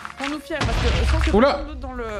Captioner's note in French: explosion